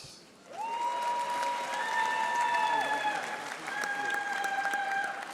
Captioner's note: audience applauding